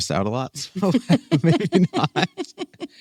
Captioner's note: laughs